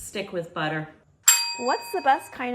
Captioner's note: ding